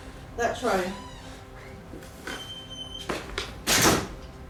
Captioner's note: door creaks